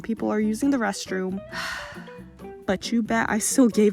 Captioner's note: sigh